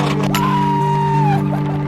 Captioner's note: screaming